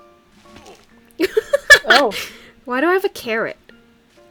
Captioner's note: laughs loudly